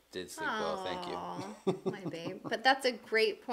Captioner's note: moans